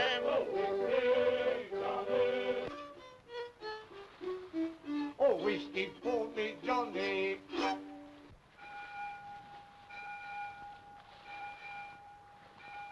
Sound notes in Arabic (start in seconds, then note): 2.9 موسيقى مشرقة; 8.6 رنين الأجراس